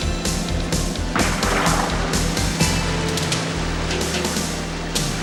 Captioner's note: gun firing